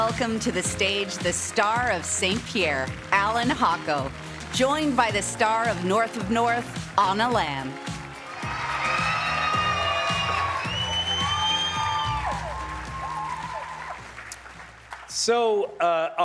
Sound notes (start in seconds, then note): 2.7 cheers and applause